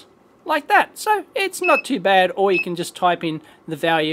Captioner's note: beeps